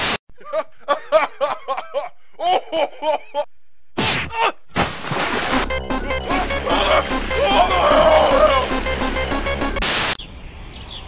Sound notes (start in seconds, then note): 0.3 laughing; 6.2 screams